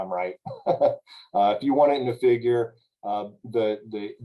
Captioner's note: laughter